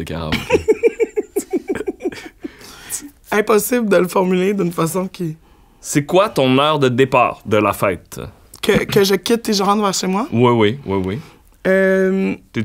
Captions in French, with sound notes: de karaoké. (éclat de rire) - Impossible de le formuler d'une façon qui... - "C'est quoi ton heure de départ de la fête?" - Que je quitte et je rentre chez moi? - Oui, oui. Oui, oui.